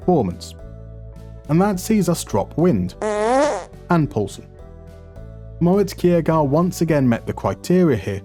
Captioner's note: fart noise